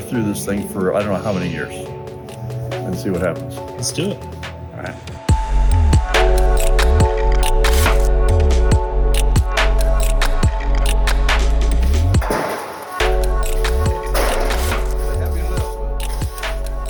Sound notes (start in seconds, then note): 5.6 bright upbeat music; 12.2 guttering clanking